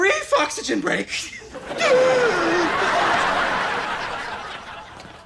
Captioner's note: audience laughter